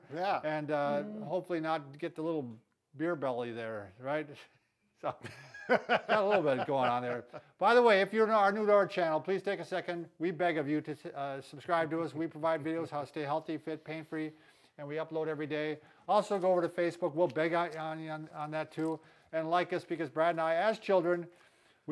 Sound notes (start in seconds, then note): 5.1 laughs